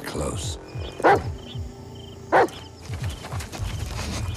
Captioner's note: barking